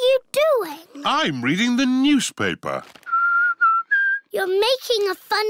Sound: whistles

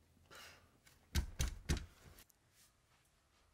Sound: pounds on door

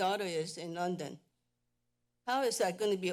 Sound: pause

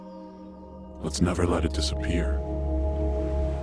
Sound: low Voice

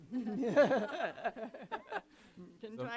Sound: laughs

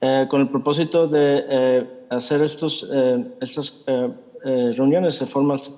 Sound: translator speaking in Spanish

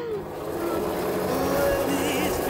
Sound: helicopter blades whir

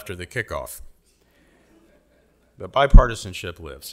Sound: audience laughing

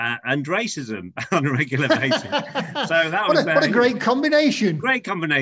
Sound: laughing

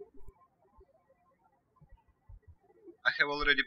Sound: birds chirping

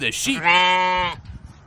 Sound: bleating

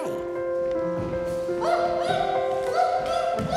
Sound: yipping

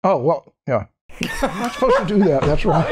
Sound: laughter

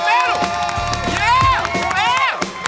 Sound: cheering

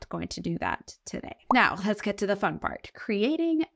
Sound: text overlay blooping

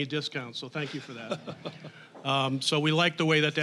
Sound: audience laughing

